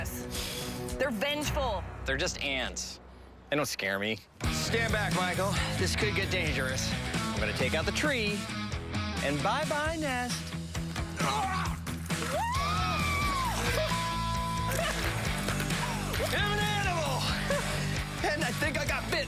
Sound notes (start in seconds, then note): 16.0 laughs